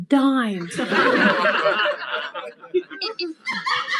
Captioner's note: people laugh